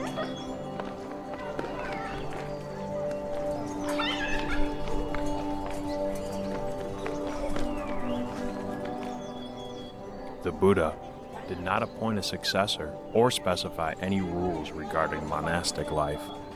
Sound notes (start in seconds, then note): 0.0 child laughs; 1.4 children chatting indistinctly; 4.0 child laughs; 5.8 gentle music